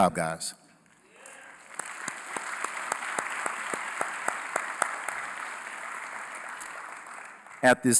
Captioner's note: applause